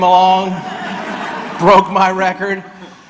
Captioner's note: audience laughs